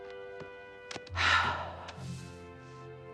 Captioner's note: sighs